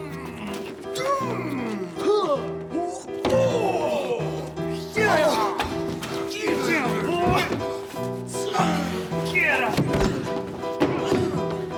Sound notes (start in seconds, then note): 0.7 grunts and shoves; 5.0 punching noises!; 7.9 piano music punctuates this brutal scene